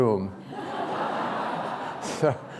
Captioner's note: laughter